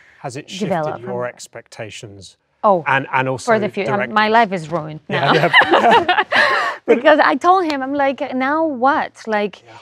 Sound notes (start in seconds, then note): 5.1 both laugh